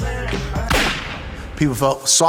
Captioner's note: gunshot fired